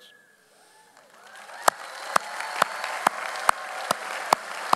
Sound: audience applauds

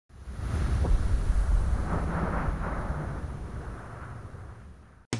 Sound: wind noise

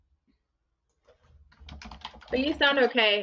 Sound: keyboard clicking

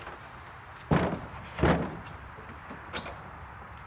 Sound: distant traffic noise; rumbling

